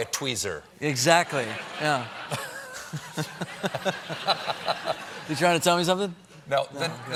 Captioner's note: laughter